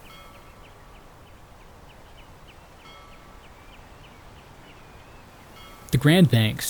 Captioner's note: birds calling; bell ringing